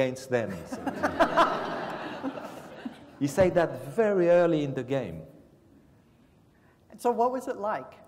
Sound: laugh

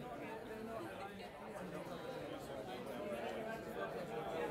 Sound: chatter

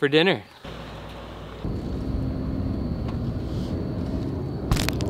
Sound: car engine revving

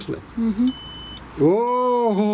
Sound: sensor beeps

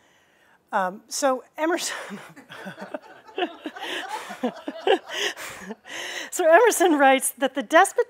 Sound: laughter

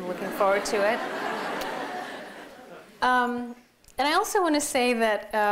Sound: laughter

